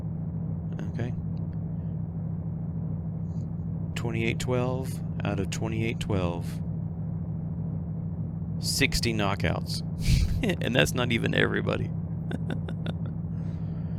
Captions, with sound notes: Okay. 2812 out of 2812. 60 knockouts [chuckles] and that's not even everybody. [laughs]